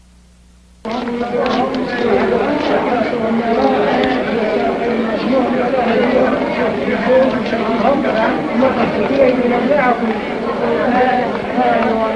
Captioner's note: crowd noise